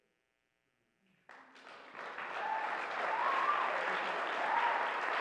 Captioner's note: audience applauds